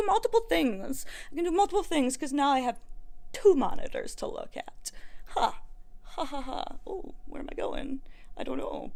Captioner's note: weird funny laugh